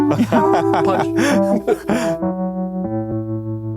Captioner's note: piano note; laughing